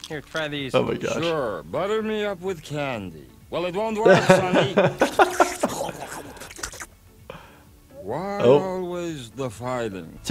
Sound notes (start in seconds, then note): 4.0 laughing; 5.0 Zoidberg slurping